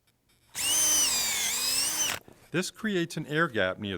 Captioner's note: drill whirring